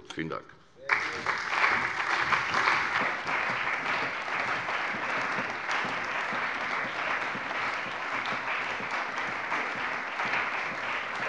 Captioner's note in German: Beifall bei der CDU, dem BÜNDNIS 90/DIE GRÜNEN und der SPD